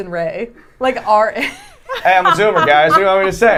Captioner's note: laughing